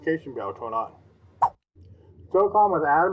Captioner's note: swipe Sound